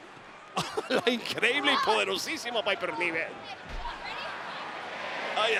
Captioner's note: laugh